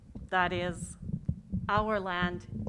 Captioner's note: none